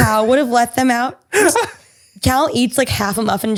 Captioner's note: laughs